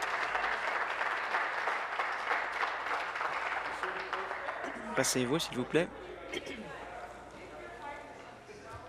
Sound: applause

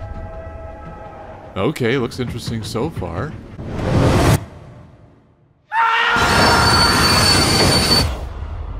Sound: scream

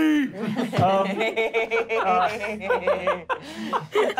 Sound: laughing

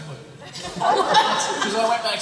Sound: laughs

